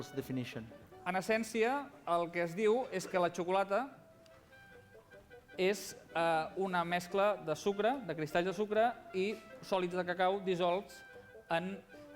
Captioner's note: non-english speech